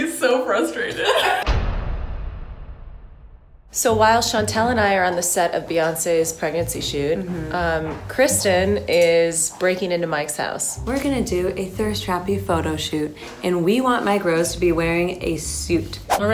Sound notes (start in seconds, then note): 1.0 laughing; 1.3 dramatic beat